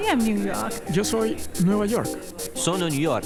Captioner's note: Spanish